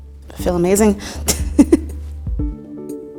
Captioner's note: laughs